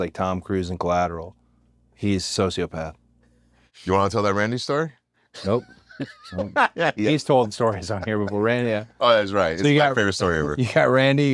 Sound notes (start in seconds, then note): 5.4 laugh